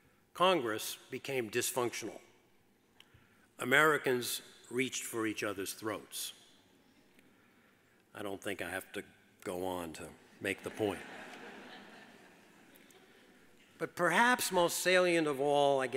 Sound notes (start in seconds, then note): 10.5 audience laughs